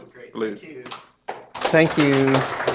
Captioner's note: applause